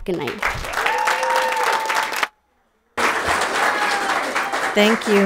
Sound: people cheer; audience applauds

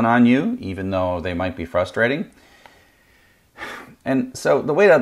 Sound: sighs

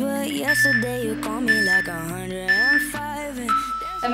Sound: timer beeping

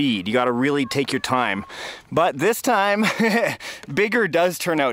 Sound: laughs

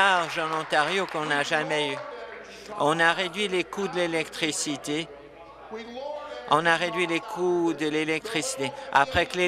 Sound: applause

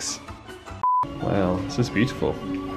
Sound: color bars beep

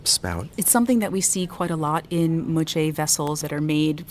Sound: voiceover

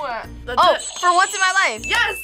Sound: bell rings; buzzer rings

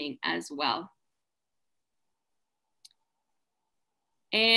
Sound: silent

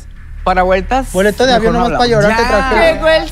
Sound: Georgie, softly

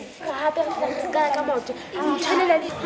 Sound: speaking local language

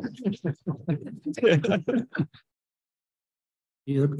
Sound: chuckling

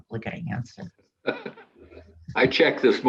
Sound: chuckles

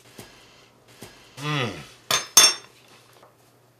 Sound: spoon clanks

